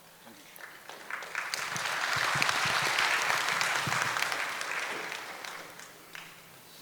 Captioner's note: applause